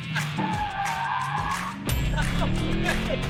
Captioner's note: engine revving; tires squealing; laughing